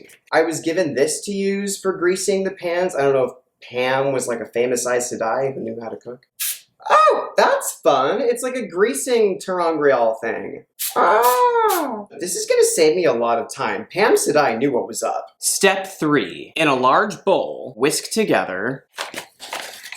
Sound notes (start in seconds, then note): 6.2 sprays; 10.8 spraying repeatedly